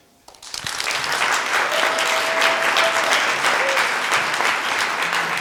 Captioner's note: applause